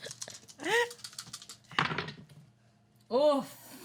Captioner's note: dice rattle